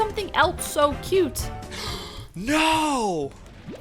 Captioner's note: gasp